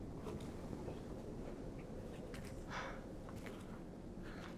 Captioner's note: wind blowing